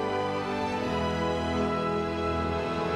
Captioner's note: none